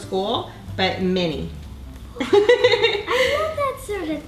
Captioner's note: laughing